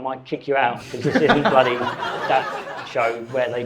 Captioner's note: audience laughing; guests chuckles